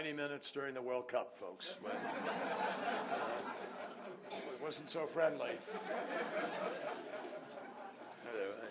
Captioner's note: laughter